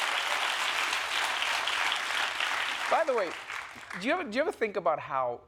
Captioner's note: applause